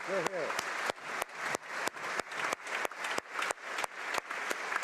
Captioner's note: applause